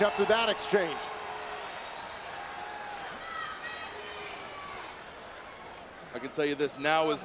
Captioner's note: applause